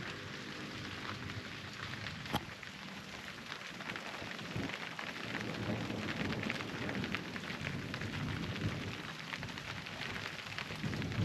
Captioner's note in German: Regen und Donner